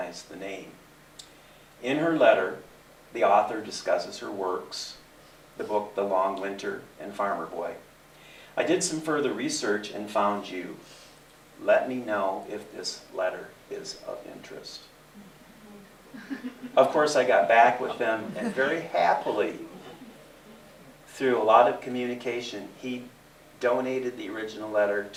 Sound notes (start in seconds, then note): 15.2 giggles